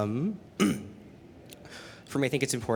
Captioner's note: clearing throat